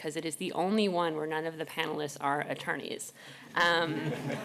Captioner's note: laughter